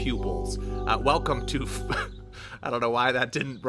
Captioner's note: chuckles